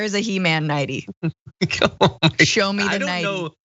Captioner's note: laugh